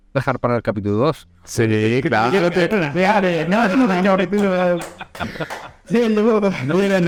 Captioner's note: laughing and Mumbling